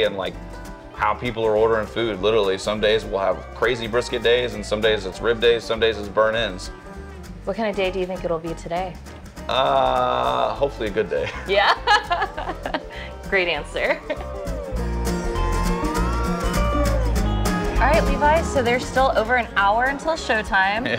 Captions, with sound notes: and like how people are ordering food literally. Some days, we'll have crazy brisket days, and some days, it's rib days. Some days, it's burnt ends. - What kinda day do you think it'll be today? - Hopefully, a good day. - Yeah. (laughing) Great answer. (upbeat music) All right, Levi, so there's still over an hour until showtime.